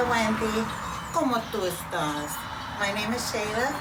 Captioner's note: speaks Spanish